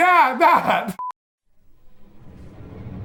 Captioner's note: digital beeping; ominous music